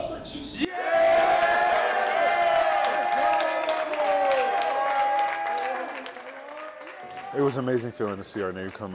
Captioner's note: cheering